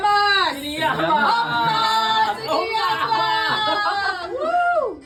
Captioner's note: cheers in Greek; all cheer in Greek